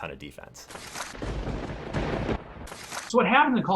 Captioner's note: thunder bangs